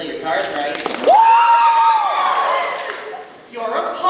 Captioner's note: wild cheering